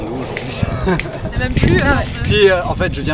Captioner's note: laughs